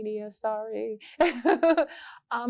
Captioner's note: laughter